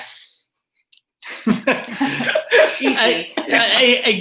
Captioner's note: laughter